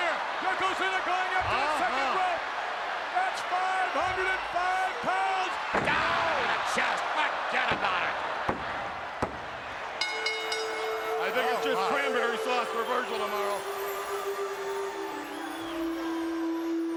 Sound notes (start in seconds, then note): 10.0 bell rings; 14.7 peaceful music